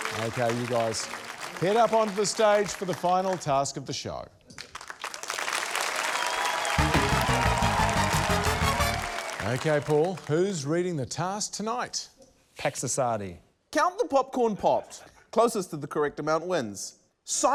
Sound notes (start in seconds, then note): 0.0 cheering, applause; 4.7 cheering, applause